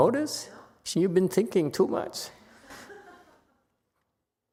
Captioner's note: audience laughs